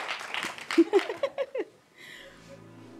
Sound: giggles

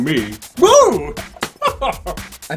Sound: laughs

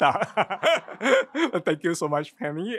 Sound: giggles

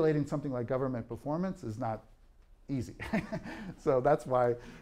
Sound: laughs

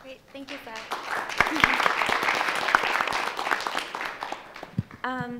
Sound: applauding

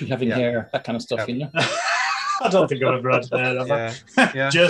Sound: laughing

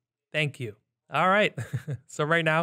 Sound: chuckles

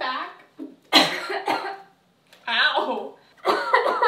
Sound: cough cough

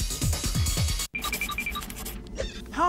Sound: pencil scratching

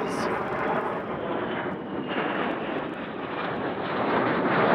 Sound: airplane roars

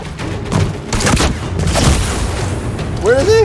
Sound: gunfire

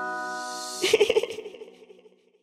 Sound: laugh

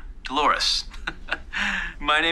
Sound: chuckles

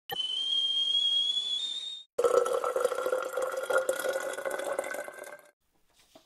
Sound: sound of kettle boiling and water pouring

